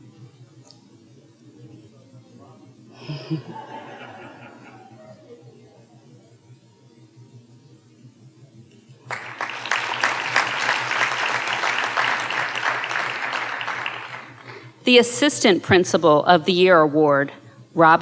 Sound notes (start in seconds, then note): 3.0 audience members talking and laughing off microphone; 9.0 audience applauding